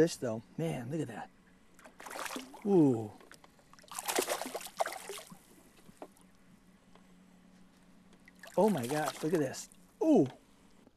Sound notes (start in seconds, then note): 3.8 splashing